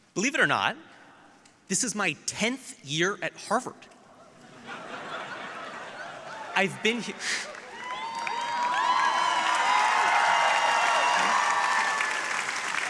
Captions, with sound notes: - Believe it or not, this is my 10th year at Harvard. (audience laughing) I've been here, (audience cheering)